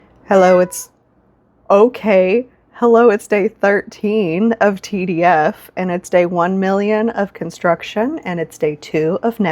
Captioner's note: loud meow